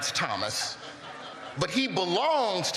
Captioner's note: laughter